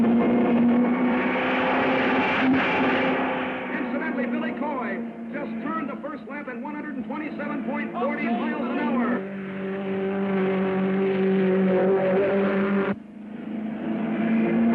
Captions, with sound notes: (car screeching) Incidentally, Billy Coy just turned the first lap in 127.40 miles an hour. - Okay, Billy. (car revving)